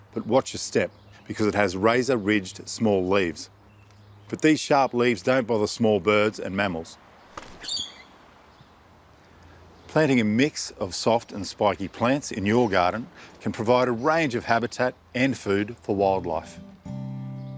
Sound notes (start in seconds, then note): 7.3 chirps